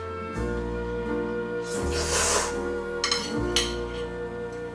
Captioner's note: slurping